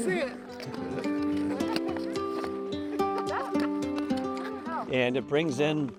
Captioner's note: skate blades carving ice